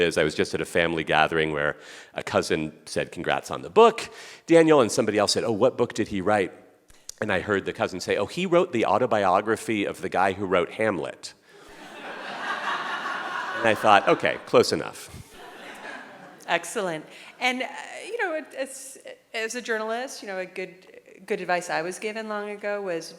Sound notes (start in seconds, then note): 11.6 audience laughing